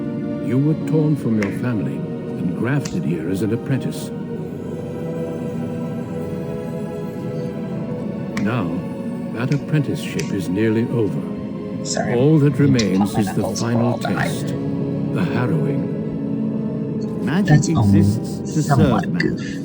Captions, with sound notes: [Knuckles cracking] Sorry, I have to pop my knuckles or I'll die. That's only somewhat a goof.